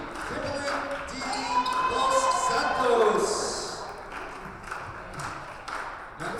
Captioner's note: audience cheers